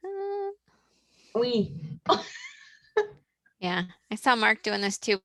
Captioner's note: laughs